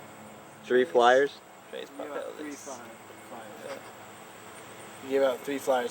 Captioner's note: spanish